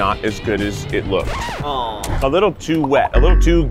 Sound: record scratching

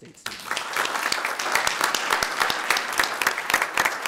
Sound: audience applauding

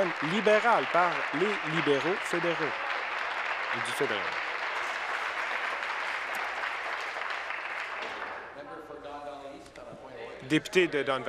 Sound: applause

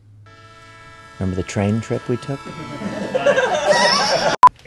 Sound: train whistles; laughter

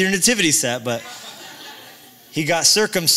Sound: laughter

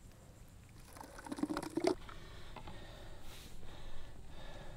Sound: liquid pouring splat

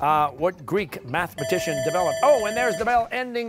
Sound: bell dings

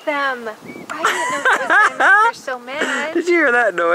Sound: laughing

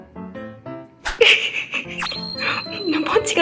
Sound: giggle

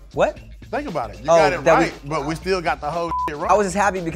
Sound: beep

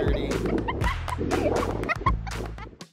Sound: laughing

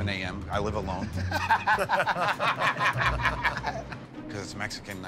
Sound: laughter

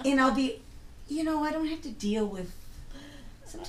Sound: voiceover

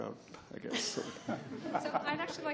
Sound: laughs

